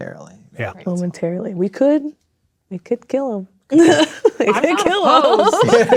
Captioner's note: laughs